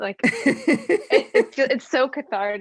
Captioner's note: laughing